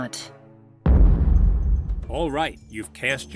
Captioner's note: boom